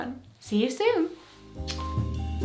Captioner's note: kiss